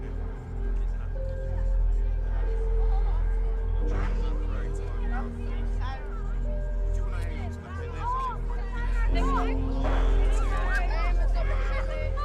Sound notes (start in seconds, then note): 1.2 people chattering faintly; 6.3 people chattering faintly